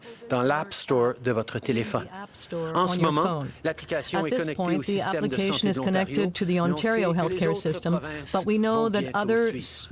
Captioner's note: speaking French